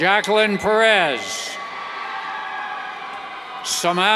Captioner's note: cheers